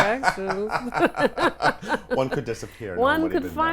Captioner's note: laughs